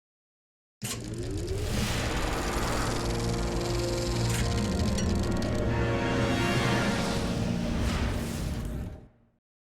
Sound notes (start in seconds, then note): 1.3 film ticking